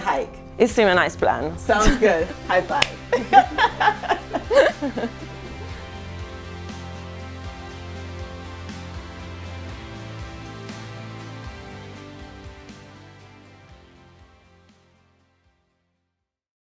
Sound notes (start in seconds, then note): 2.5 laughter; 2.6 clap